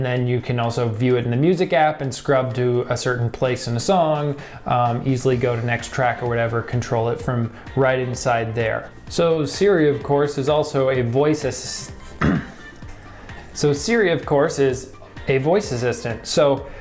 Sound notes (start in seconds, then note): 12.1 cough